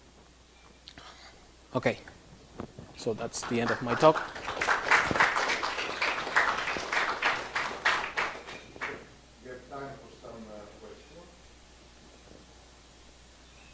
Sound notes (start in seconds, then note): 4.7 applause